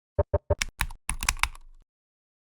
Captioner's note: ident clicks